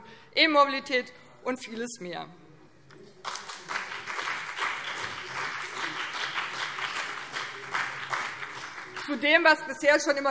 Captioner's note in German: Beifall BÜNDNIS 90/DIE GRÜNEN und vereinzelt CDU